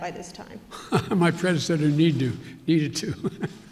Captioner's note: laughs